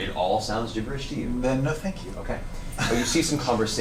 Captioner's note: laughs